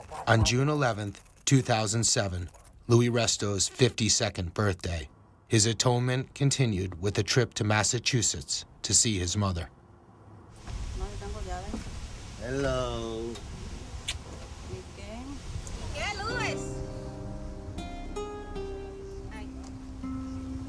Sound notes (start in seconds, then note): 14.0 kissing